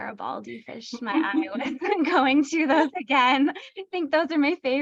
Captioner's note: laughter